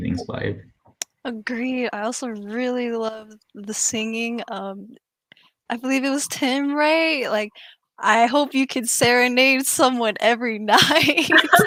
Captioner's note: laughs